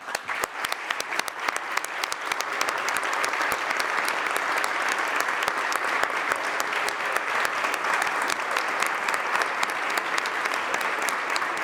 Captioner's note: applause